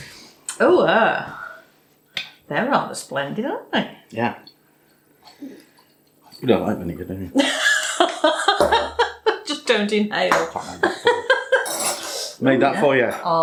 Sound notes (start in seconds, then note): 8.8 laffin